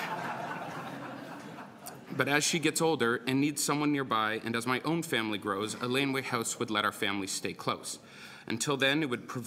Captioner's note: laughter